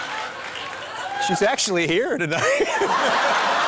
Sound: laughing

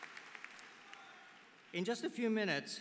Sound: applause

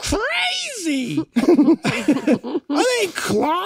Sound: all laugh

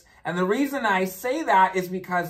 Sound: none

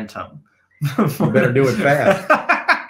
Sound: chuckling

